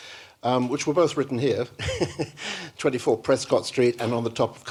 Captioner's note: chuckles